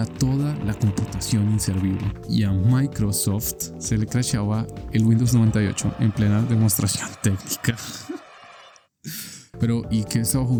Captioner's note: hahaha